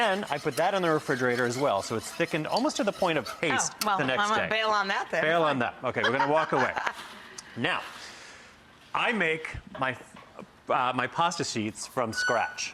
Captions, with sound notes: Then, I put that in the refrigerator as well, so, it's thickened almost to the point of paste. Oh, well, I might bail on that there. Bail on that, okay. (laughs) We're gonna walk away. Now, I make my pasta sheets from scratch.